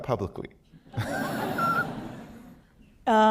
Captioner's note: laughter